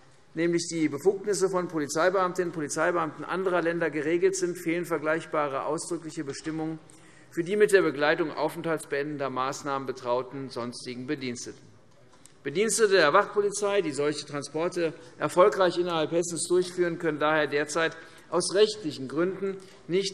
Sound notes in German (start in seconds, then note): none